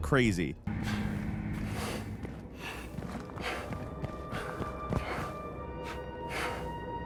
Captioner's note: suspenseful music; character pants